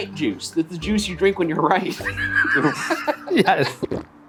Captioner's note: laughs